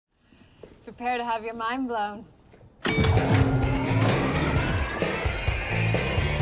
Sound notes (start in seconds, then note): 2.1 whirring; 2.8 chimes